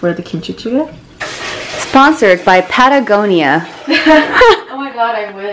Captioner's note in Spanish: risa